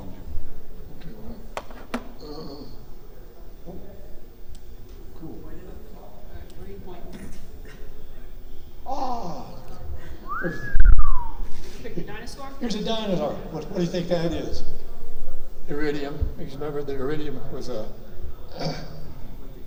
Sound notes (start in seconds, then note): 6.0 audience chatter; 10.2 whistles; 16.4 audience chatters